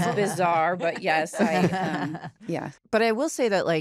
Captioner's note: laughter